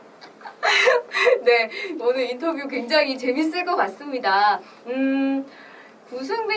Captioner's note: laughs